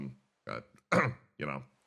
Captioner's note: clears Throat